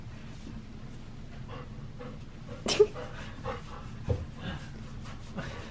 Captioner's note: breathing heavily; chuckles